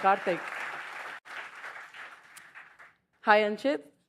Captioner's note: applause